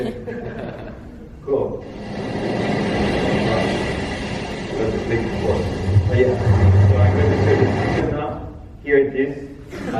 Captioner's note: sound of wave breaking